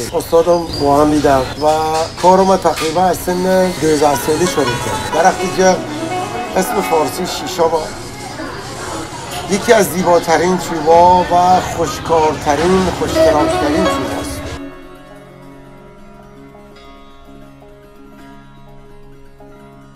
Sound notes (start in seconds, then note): 5.6 in Dezfuli dialect; 7.5 in Farsi